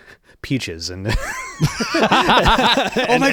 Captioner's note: laughing